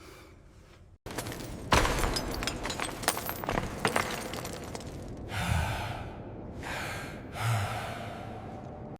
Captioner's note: beads jingling